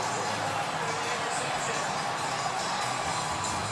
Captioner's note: stadium announcements